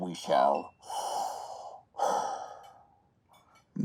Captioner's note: heavy breath